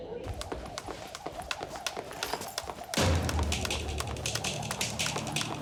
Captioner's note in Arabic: أزيز حبل القفز